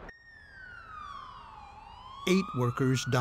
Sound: sound of sirens

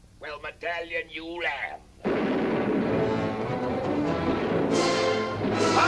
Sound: guns firing; anticipatory music

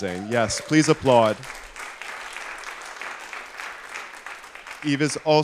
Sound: applause

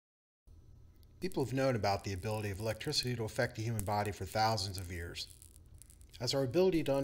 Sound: electric noise in background

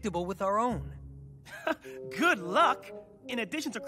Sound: chuckling

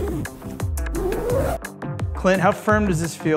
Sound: zipping

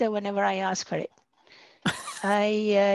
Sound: chuckling

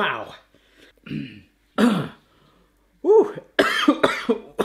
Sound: clears throat; coughs

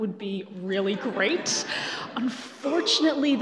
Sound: laughing

